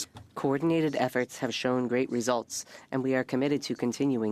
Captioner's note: speaking French